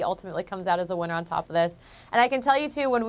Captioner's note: speaking in french